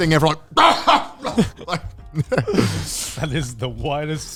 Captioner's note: coughing